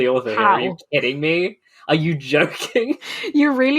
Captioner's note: laughing